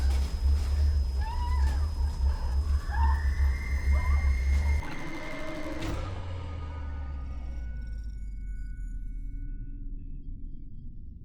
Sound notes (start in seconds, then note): 3.2 Olive screams; 6.7 eerie music